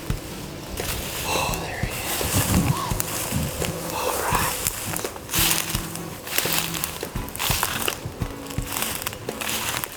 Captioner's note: whispering